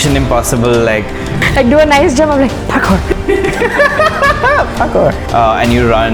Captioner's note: laughter